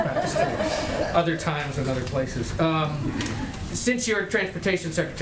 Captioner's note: laughter